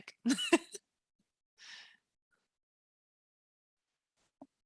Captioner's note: laughs